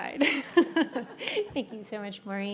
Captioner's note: laughs